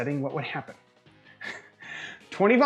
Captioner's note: chuckles